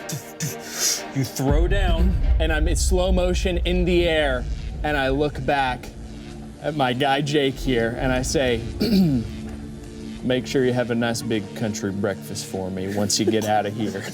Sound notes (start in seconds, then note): 8.8 clears throat